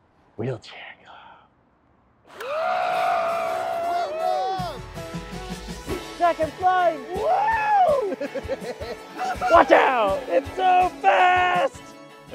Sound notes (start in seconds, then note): 2.8 exciting music playing; 7.5 laughing